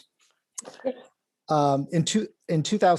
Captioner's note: laughs